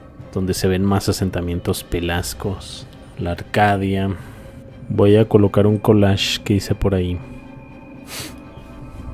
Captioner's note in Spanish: resoplido